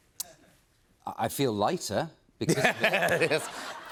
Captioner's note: laughter